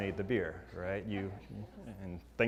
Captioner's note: laugh